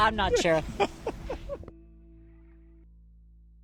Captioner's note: laughs